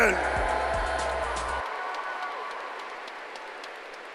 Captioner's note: cheering